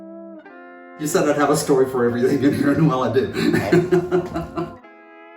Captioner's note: laughs